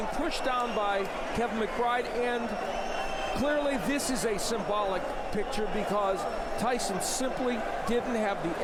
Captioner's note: applause